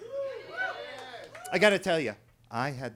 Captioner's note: attendees cheering